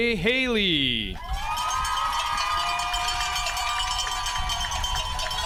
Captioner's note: audience applauding